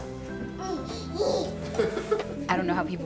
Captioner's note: baby and father laughing